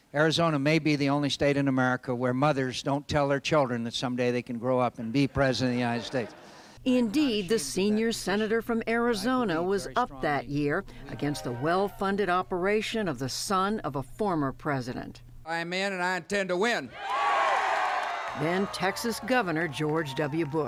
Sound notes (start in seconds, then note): 5.9 laughter; 16.9 cheering and applause